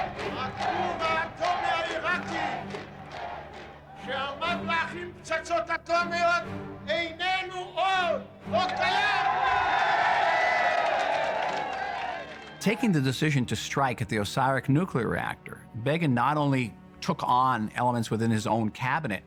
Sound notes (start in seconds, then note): 10.2 crowd cheering